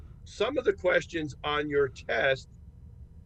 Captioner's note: laughs